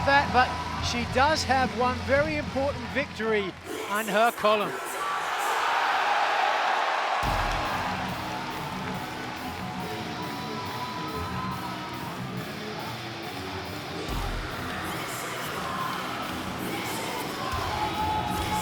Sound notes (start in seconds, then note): 5.2 applause